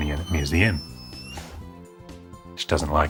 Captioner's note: dog yawns